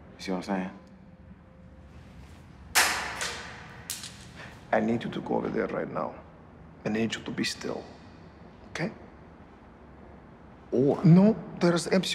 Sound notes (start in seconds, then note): 2.7 thud